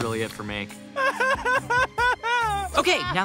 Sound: crying

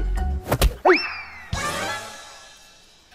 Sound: gasps

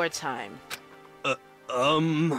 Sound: ugh

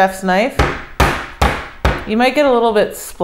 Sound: pounding

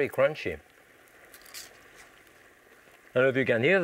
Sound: crunching noises

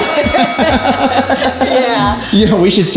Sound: all laughing

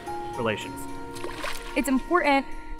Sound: softly splashing water

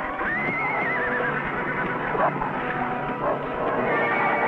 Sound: Rebel growling

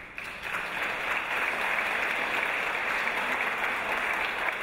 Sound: audience applause

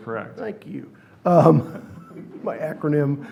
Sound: laughs

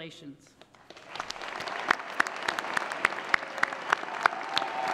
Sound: applause

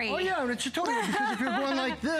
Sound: laughter

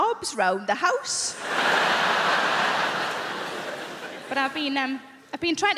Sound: crowd laughing

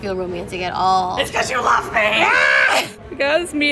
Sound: yells

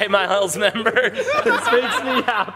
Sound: laughter

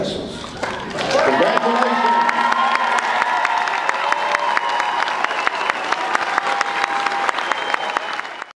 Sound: applause and cheering

